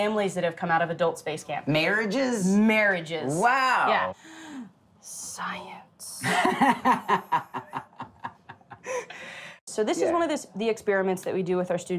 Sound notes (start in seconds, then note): 6.3 laughing